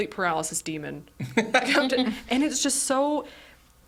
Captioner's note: laughing